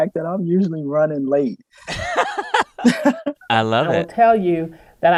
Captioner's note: laughter